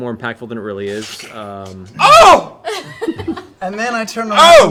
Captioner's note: overly dramatic